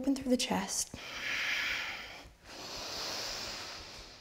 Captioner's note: heavy breaths